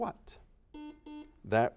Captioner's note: series of beeps